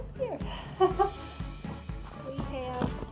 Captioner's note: laughter